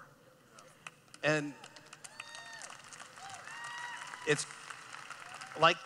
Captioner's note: cheering